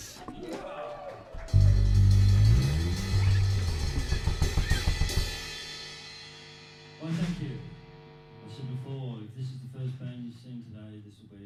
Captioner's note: applause